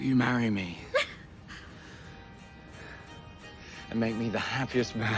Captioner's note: Rachel cries